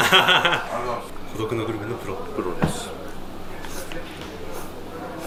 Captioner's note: laughs